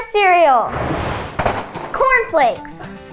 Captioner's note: air whoosing